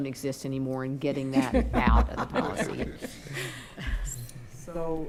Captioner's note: others laughing